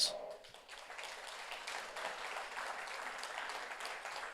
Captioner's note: audience applauds